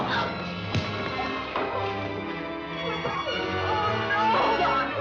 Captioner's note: thudding